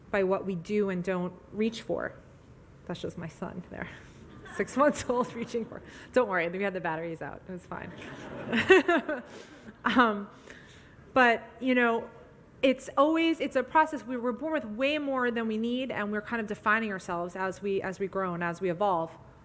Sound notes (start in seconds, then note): 2.4 audience laughs; 2.4 laughs